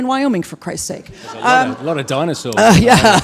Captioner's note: audience laughs